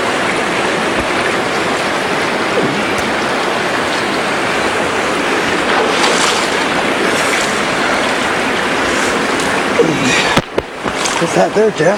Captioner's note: water splashing